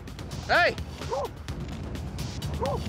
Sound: dog barking

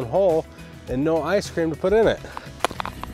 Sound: shovel rattling

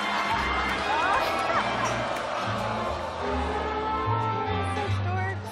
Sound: audience groaning

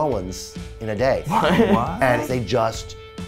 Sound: surprise exclamations

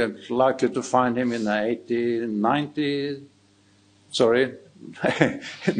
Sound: chuckling

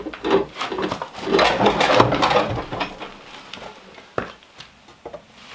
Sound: metal scraping and clanging

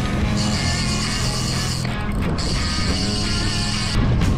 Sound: reel clicking

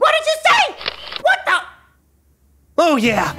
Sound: camera sound

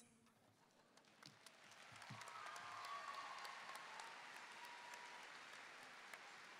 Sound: audience cheering and applauding

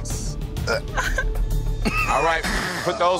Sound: gagging; laughing

